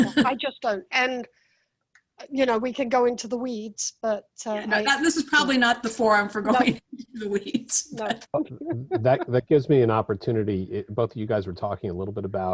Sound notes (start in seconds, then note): 0.0 laughs; 8.3 chuckles